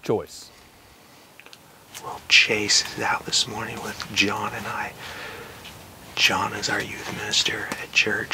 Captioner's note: whispering